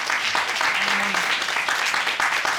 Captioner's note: audience applauding